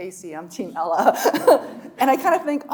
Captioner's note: chuckling